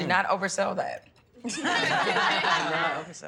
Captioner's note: laughing